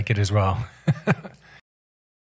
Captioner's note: laughs